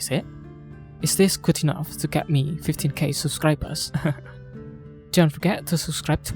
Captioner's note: chuckles